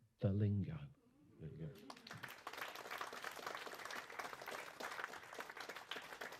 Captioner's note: applause